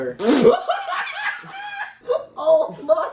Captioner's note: laugh